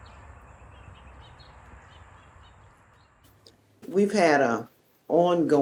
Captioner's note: music fades; birds chirping; distant traffic humming